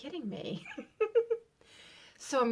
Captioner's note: giggle